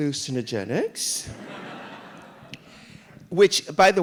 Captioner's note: audience laughing